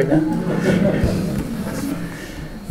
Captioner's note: laughter